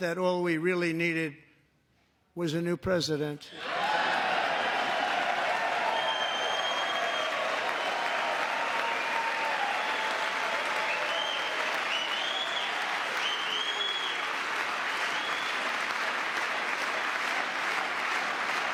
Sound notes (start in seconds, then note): 5.9 cheering; 7.4 applause